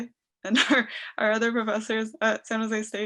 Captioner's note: laughing